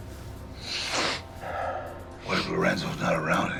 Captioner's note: snorts